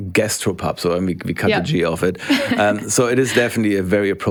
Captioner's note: laughs